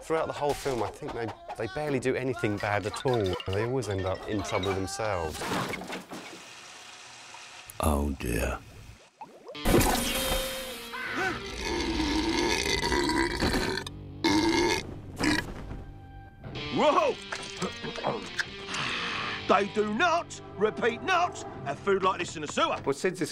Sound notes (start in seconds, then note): 11.2 loud burp